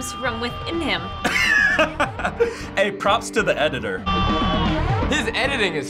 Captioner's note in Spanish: riendo